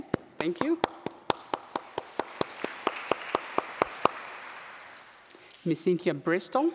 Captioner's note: applause